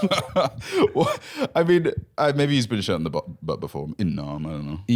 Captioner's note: laughs